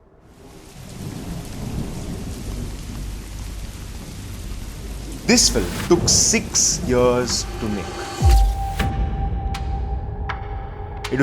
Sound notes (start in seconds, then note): 4.1 rain and thunder; 11.0 suspenseful music